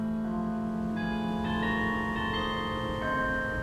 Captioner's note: bells chiming